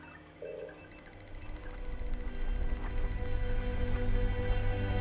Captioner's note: computer bleeps